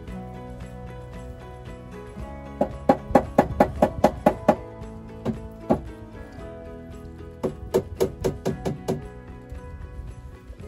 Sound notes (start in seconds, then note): 2.6 sound of a hammer hitting the wooden board